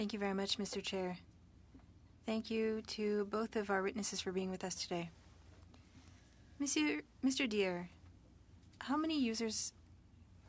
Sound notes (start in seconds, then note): 6.4 speaking French